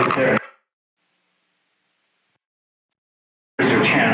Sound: no audio due to technical difficulties

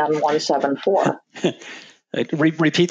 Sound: laughs

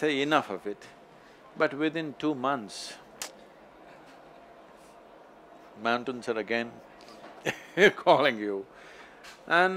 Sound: laughs

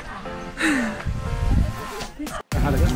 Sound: exhales sharply; upbeat music continues

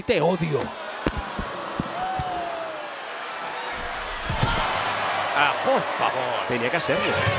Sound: applause

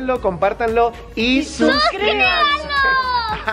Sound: laughs

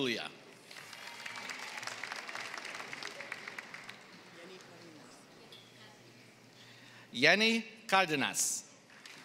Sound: applause; applause

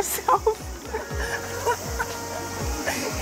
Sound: laughs

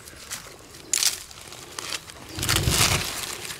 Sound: rifle clips rattling; scraping soil

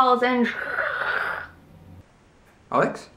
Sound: static

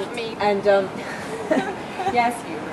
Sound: laughing

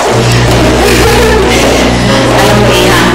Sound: giggles

